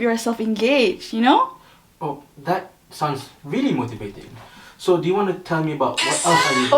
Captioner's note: ringtone